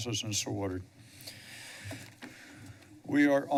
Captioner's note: breaths steadily